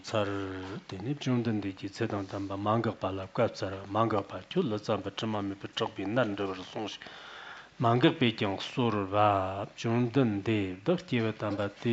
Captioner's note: giving oral transmission in Tibetan